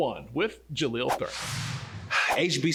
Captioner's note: swiping sounds